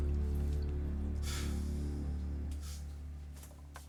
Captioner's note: sighs